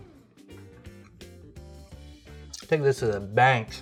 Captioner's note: chewing